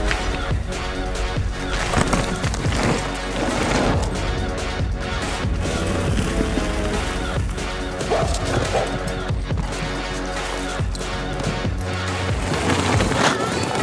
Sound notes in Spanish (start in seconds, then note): 3.4 llantas de bicicleta crujiendo sobre tierra; 8.0 perro ladrando